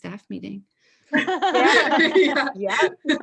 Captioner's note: everyone laughs